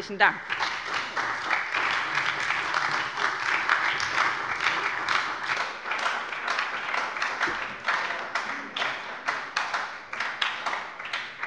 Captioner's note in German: Beifall bei der SPD